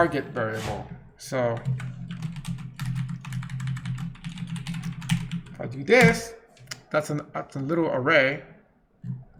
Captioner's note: rapidly typing